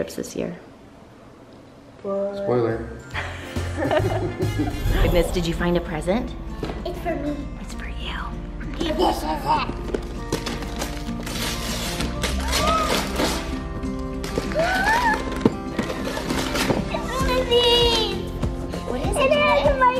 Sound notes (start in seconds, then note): 3.2 laughing; 11.1 christmas music playing